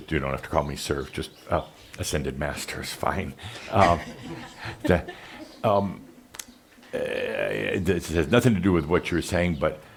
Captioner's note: a few chuckles